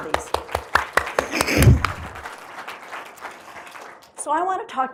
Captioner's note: applause